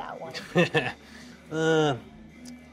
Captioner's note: Brett chuckles